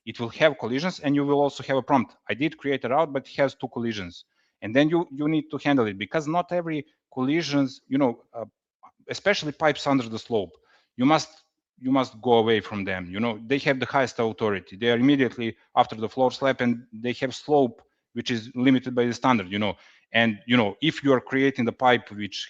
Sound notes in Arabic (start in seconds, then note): none